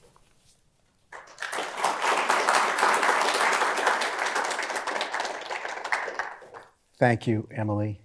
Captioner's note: applause